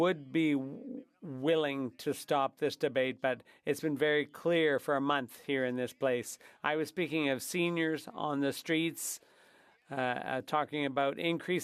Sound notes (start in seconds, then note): 0.7 speaking French